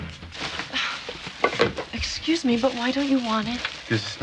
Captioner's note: scoffs